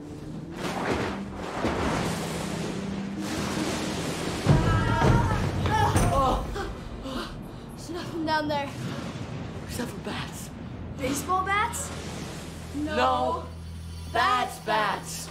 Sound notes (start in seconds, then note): 0.3 thunder; 4.6 both Screaming